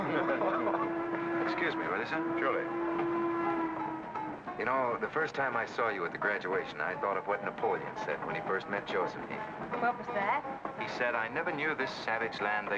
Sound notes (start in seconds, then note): 0.1 men laugh; 2.9 train whistle blows